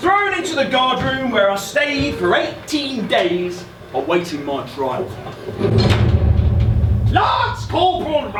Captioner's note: SFX - Jail Door Closing